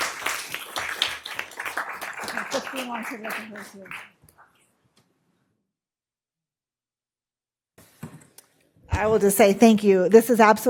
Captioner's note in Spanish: aplausos